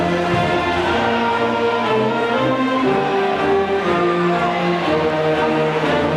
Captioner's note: audience faintly shouting